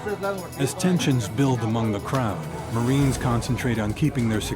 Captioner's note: voiceover